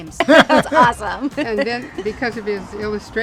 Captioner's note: laughs